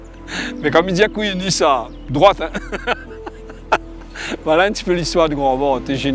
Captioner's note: laugh